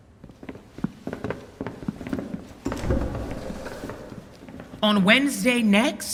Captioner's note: footsteps departing